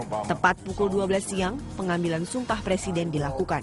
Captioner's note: non-english speech